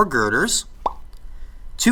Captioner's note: popping sound effect